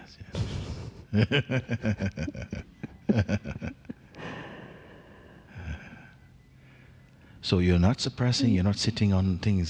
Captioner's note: laughs